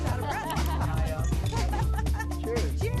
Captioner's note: laughter